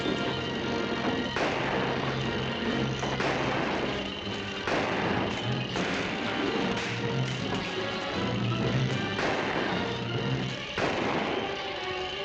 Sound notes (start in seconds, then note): 0.1 loud clattering - gunshot; 3.2 gunshots; 9.3 gunshots